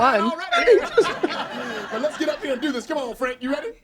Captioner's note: all laughing loudly